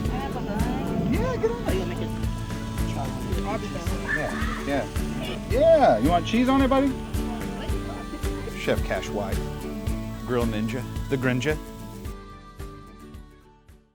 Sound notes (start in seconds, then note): 3.2 kids talking